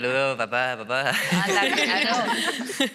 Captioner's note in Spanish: Risas